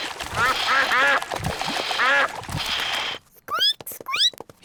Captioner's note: ducks quack; squeaks